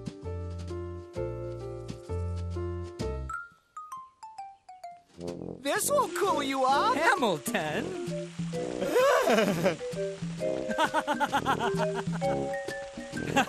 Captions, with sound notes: This will cool you off! Hamilton! (Laughing)